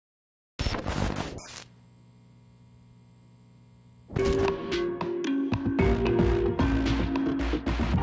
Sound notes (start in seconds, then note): 0.6 distorted audio; 4.2 techno music